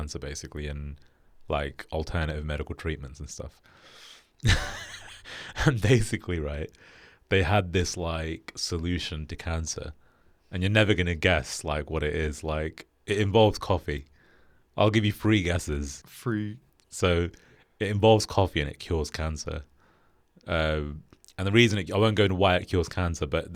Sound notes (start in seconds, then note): 4.4 laughs